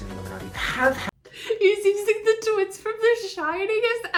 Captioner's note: laughing